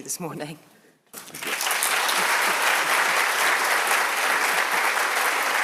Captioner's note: audience applauding